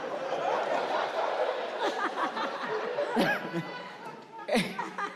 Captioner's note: audience laughs